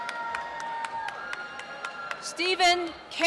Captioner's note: applause and cheering